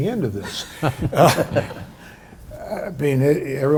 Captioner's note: chuckles